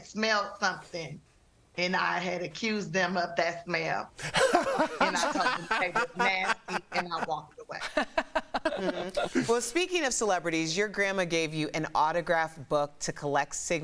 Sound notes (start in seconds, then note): 9.4 laughter